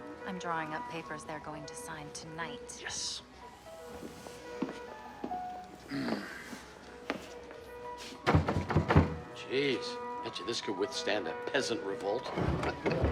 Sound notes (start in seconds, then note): 8.2 knocking; 12.5 laughs